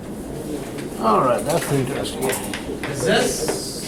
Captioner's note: voiceover